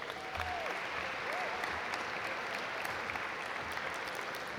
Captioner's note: audience applaud